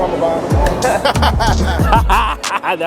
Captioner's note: men laughing